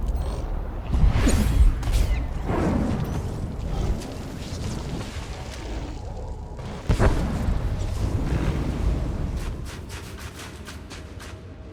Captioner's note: explosion